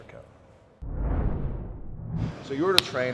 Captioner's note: scene swooshing